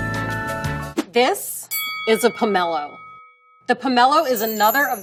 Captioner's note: bell dings